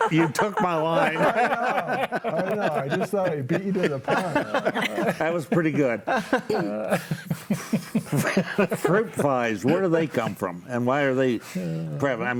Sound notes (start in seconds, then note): 1.8 panelists laugh